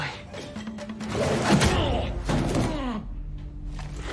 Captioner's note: grunting